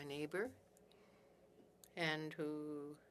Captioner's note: speaking French